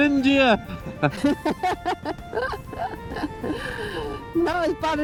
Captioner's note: laughter